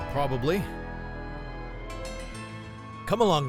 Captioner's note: police sirens approaching